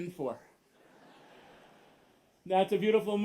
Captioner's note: laughter